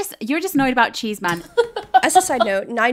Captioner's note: laughing